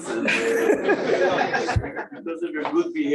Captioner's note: laughter